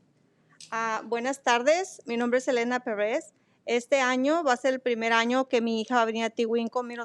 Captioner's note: speaking in foreign language